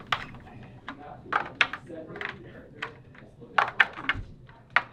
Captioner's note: yellow pieces clicking